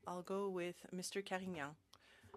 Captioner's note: speaking French